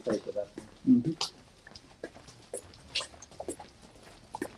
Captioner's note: water dripping